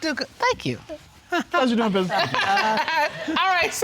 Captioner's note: judge laughing